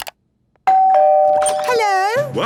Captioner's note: doorbell ringing